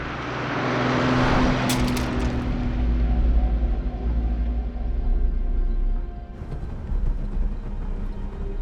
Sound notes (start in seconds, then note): 1.7 phone clatters; 2.5 ominous music